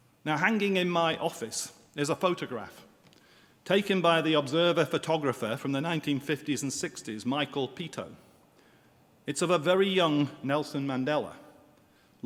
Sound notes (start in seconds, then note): none